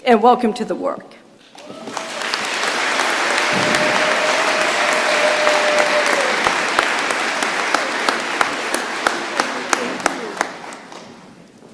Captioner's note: applause